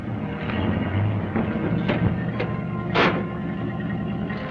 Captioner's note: clanging